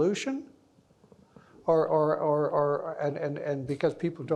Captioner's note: stammering